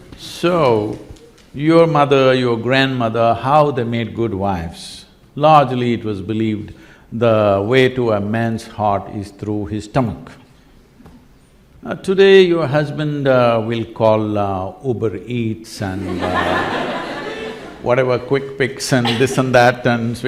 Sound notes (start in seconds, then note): 16.0 laughter